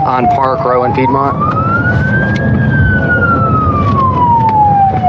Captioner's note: sirens s waililing